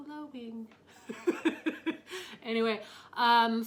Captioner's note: laughs